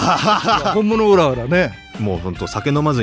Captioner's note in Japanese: 笑い